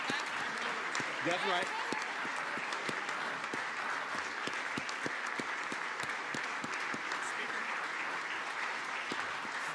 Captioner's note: applause